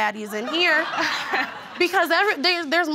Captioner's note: audience laughs